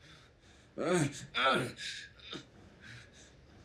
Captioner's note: Roy groaning